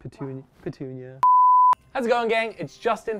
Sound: beep

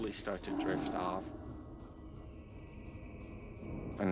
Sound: distorted screech

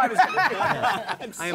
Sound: laughter

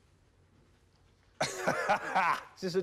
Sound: laughing

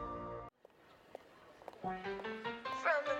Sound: footsteps

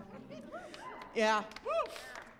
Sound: cheering

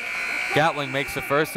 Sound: buzzer

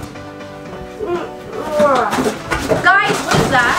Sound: groans

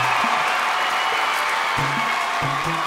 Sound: audience applauds

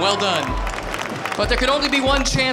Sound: applause

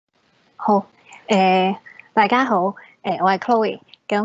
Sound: Cantonese

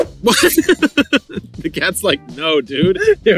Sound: laughing

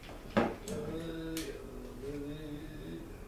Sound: russian humming?

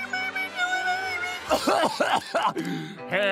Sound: whimpering; coughing

